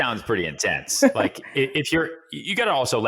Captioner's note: laughs